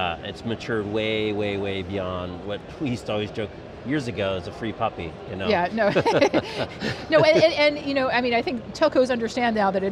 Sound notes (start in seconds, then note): 5.8 laughing